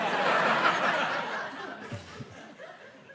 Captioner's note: laughter